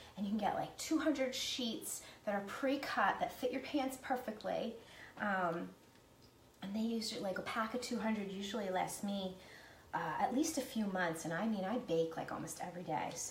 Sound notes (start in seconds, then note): none